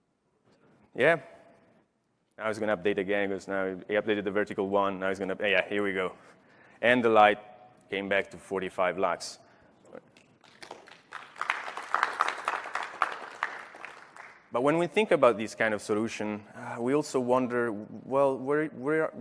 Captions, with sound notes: BUILDING, GSM SOMETIMES TAKES TIME. NOW IT'S GOING TO UPDATE AGAIN. IT UPDATED THE VERTICAL ONE. NOW, HERE WE GO. AND THE LIGHT CAME BACK TO 45. [ APPLAUSE ] >> BUT WHEN WE THINK ABOUT THIS